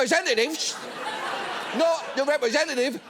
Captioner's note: studio audience laughing